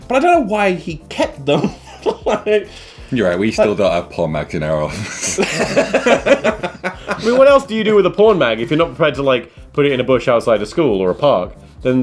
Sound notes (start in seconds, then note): 1.5 chuckling; 4.8 laughing